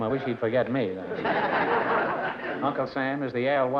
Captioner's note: laughter